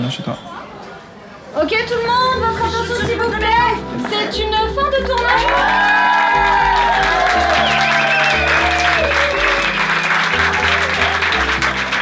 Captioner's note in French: Applaudissement des acteurs